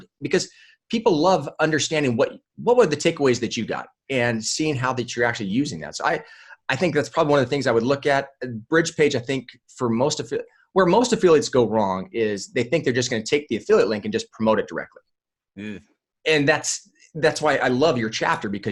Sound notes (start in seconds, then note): 9.2 stumbling over words